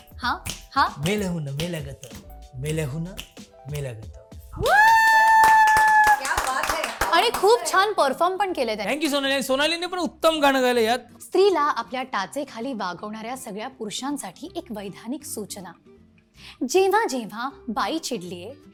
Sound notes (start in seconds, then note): 4.6 cheering; 4.6 claps